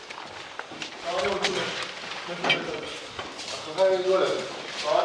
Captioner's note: Arabic spoken audio